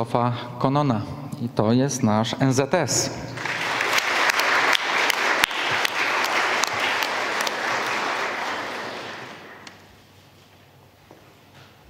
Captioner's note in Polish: oklaski